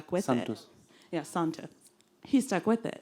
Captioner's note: voiceover